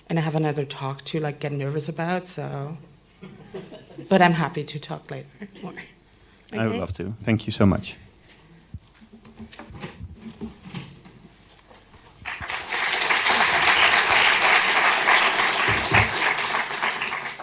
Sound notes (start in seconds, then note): 12.2 applause